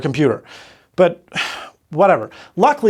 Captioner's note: sigh